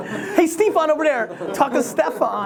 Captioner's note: everyone laughs; laughs